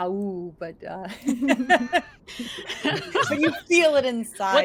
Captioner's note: characters laugh laugh